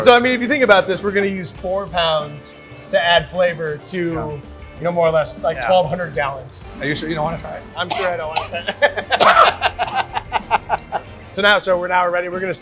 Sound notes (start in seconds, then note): 7.8 coughs loudly; 8.4 laughs boisterously